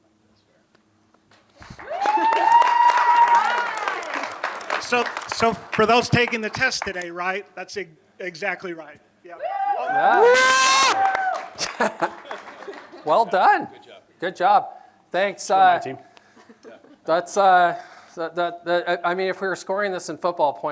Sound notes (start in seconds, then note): 1.6 applause; 9.5 classroom yells